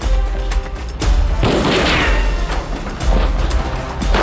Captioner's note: firing continues